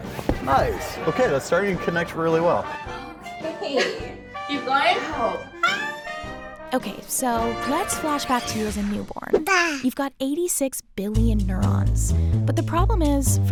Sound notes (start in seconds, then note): 5.9 squeaking; 9.3 baby cooing